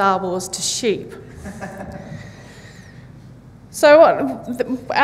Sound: audience laughs

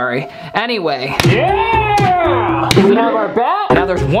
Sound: smacking sound

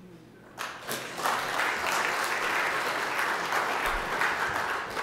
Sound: audience applauding

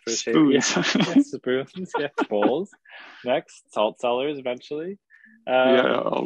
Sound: laughs; laughs

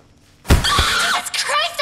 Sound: screams

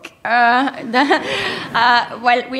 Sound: laughter

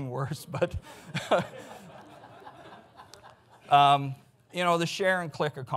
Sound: audience laughs

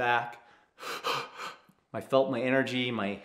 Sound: pants heavily

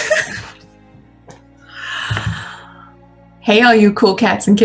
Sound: laughter

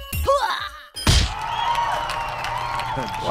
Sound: everyone cheering

